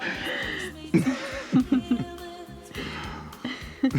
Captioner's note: both laughing; gentle upbeat music